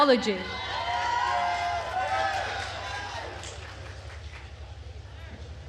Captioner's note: attendees cheering and applauding